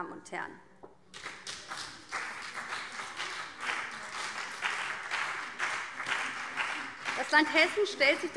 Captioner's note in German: Beifall BÜNDNIS 90/DIE GRÜNEN und CDU